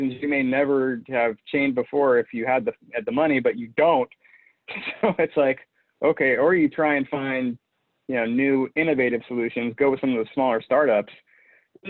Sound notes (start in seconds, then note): 4.6 chuckles